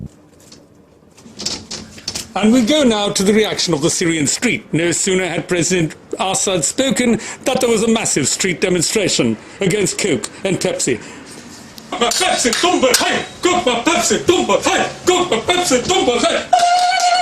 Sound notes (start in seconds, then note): 12.6 Arabic